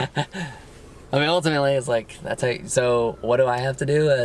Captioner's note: laughs